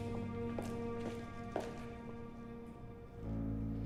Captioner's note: gentle music; shoes clacking